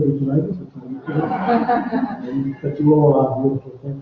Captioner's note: laughter